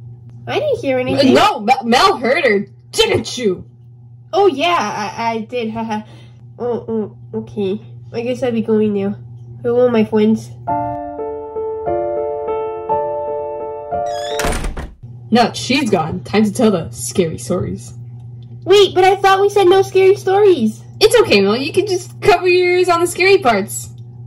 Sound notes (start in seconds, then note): 10.6 sad music; 14.0 shuts door